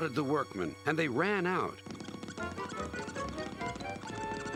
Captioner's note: scuttling